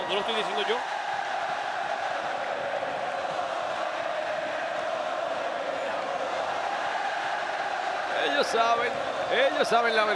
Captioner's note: applause